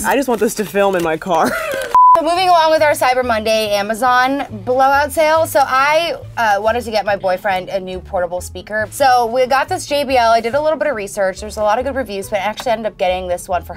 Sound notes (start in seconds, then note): 1.4 laughs; 1.9 beep